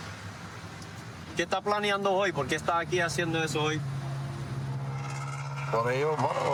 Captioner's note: speaking spanish